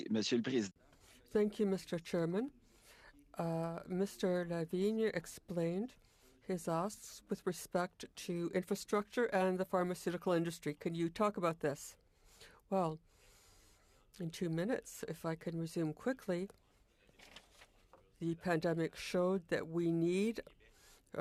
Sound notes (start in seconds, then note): 7.8 speaking French